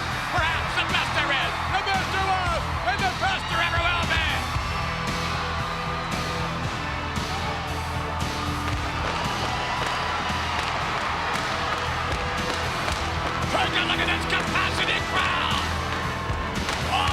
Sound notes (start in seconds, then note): 4.4 hard rock music; 8.5 fireworks popping